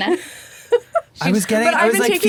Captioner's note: laughing